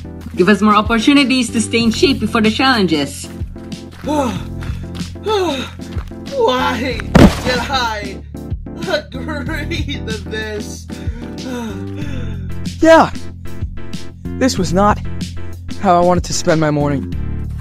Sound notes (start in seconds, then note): 7.2 panting